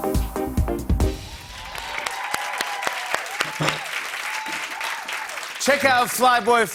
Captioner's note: cheers and applause